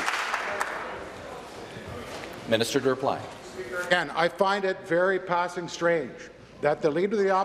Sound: applause

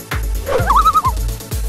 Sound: loon call

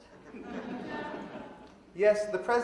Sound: audience laughing

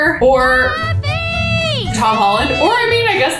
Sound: child yells

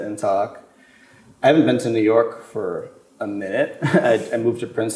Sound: chuckles

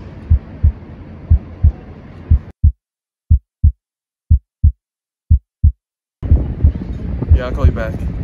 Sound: A heart beating

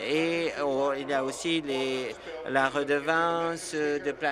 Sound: none

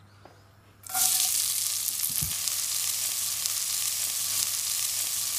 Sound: vegetables sizzling

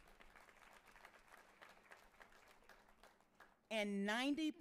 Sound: audience cheering and applauding

